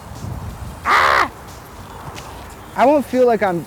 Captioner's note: screams